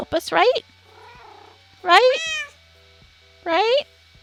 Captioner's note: cats meow